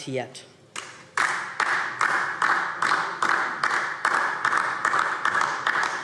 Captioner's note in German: Beifall DIE LINKE